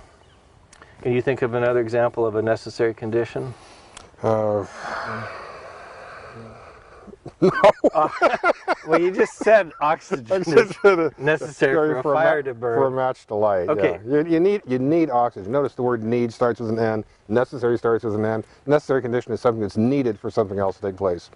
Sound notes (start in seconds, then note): 4.2 sighs; 6.0 laughing